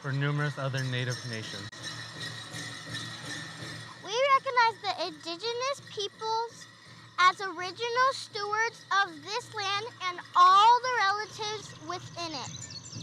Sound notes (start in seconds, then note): 1.8 bells jingling; 1.8 drums resonating